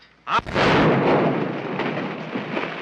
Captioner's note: explosion